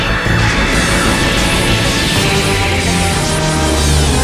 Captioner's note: Yamato Frin Mah Lazor Sound